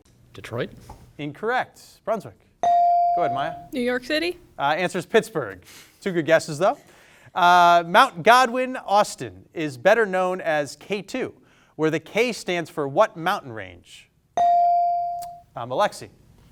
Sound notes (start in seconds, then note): 2.6 bell sounding; 14.4 bell sounding